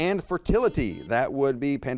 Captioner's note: buzzer beeps